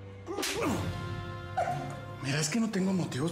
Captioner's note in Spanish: sollozos